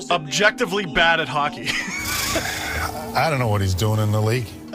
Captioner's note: laughs